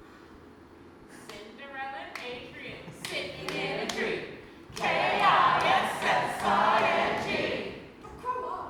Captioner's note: sing-song